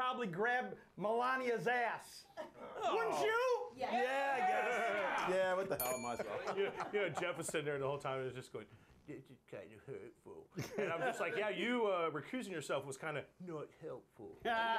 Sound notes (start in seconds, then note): 5.8 bell rings; 11.3 mumbling